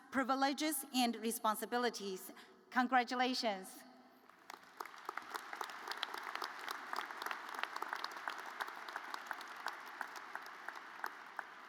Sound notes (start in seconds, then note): 4.3 audience applauds